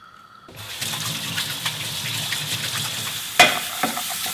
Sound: water flowing; pork sizzling

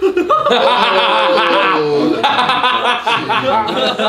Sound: all laugh

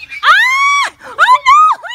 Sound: mommy screaming

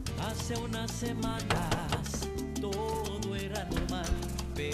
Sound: door knocking

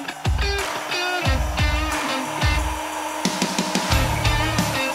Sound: drilling

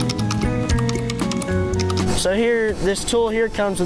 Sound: keyboard typing

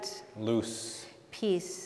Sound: speaking in Spanish

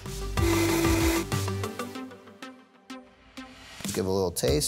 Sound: upbeat music; blender whirring

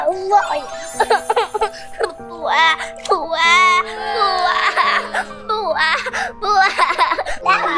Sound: crying

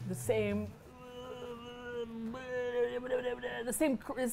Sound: grunts in thought

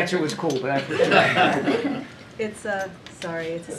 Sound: laughter

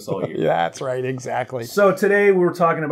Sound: laughs

